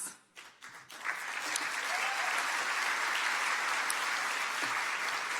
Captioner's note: audience clapping